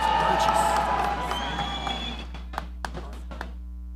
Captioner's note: audience cheering